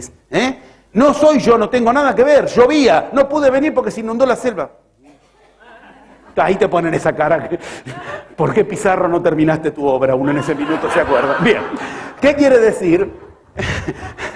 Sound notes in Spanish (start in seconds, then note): 5.0 risas; 10.2 risas